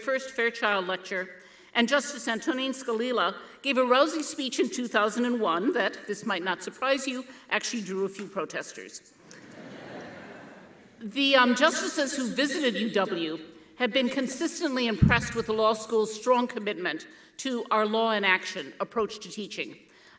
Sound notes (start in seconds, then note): 9.3 audience laughing